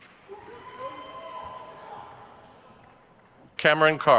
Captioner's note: crowd cheers